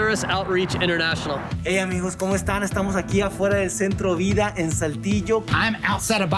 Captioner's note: speaking in foreign language